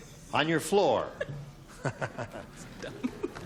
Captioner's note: chuckles